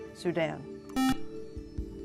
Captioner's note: buzzer